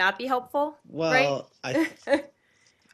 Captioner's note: laughter